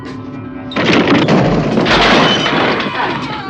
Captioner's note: crash